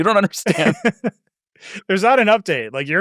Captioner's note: laugh